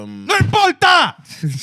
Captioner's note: speaking Spanish